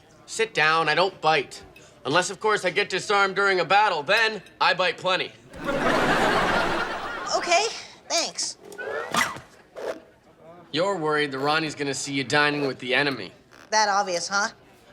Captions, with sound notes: Sit down, I don't bite. Unless, of course, I get disarmed during a battle. Then, I bite plenty. (audience laughing) - Okay, thanks. - You're worried that Ronnie's gonna see you dining with the enemy. - That obvious, huh?